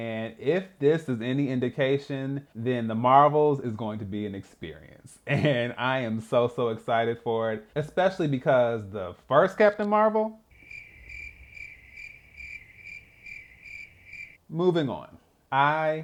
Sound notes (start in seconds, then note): 13.1 crickets